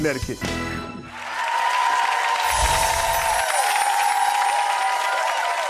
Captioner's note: clapping and cheering